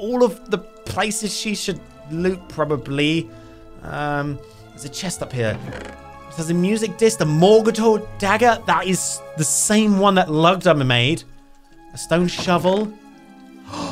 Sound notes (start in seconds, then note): 3.3 adventurous instrumental music; 5.2 chest hinges creaking; 12.8 water trickling